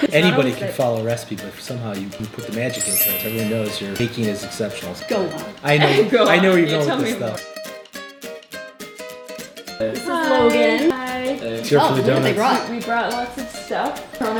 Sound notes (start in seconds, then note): 5.5 laughing